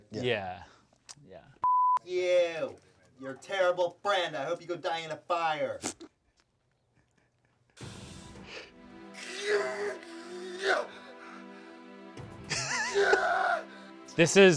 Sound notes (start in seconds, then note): 1.6 beep; 7.8 dramatic music; 9.2 grunting; 12.8 screaming